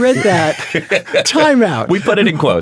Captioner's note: chuckling